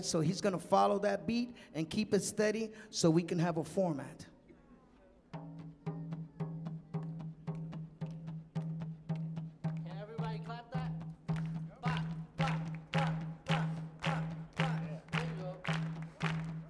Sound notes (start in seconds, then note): 5.4 audience clapping; 5.4 upbeat drumming music